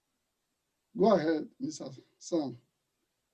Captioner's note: murmurs